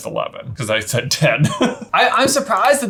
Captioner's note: laughs